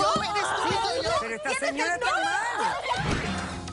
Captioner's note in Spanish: gritos y exclamaciones